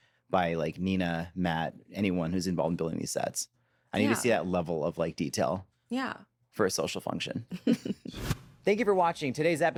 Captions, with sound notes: by, like, Nina, Matt, anyone who's involved in building these sets. I need to see that level of, like, detail... -Yeah. -...for a social function. (BOTH CHUCKLE) Thank you for watching today's episode